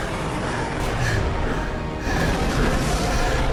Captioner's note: panting